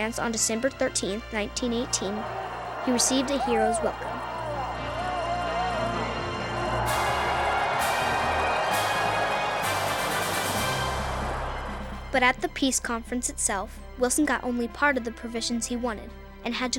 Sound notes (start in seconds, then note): 4.3 cheering